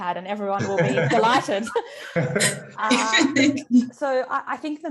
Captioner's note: both laugh